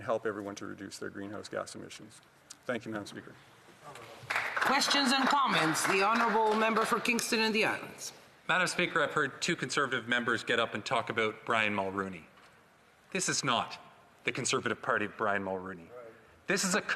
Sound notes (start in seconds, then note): 7.3 some Applause